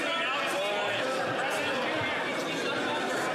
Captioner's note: yelling